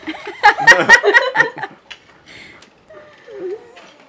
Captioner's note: laughs